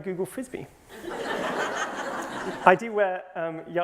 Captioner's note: laughter